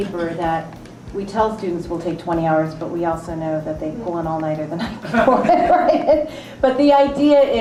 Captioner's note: laughs